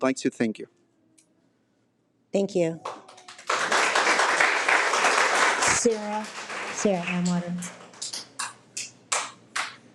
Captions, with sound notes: So I'd like to thank you. - Thank you. (audience applauding) - Sarah Auwarter.